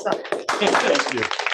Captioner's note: applause